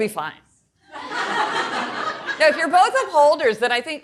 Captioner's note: audience laughing